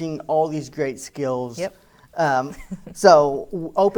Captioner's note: chuckles